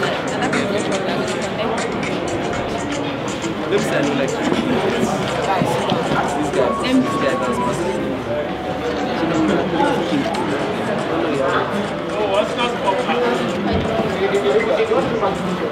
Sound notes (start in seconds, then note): 0.2 afrobeat music; 5.3 crowd murmuring; 10.5 afrobeat music; 12.8 crowd murmuring